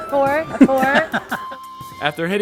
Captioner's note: chuckles